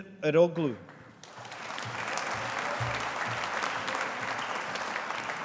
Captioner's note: audience applauding